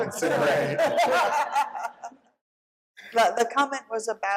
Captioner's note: laughter